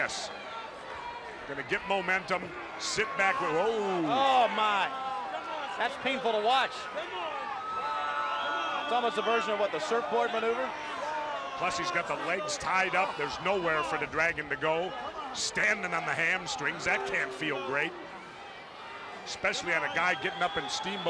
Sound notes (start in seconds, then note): 9.3 crowd chatter